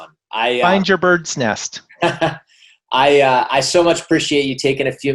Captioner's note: laughing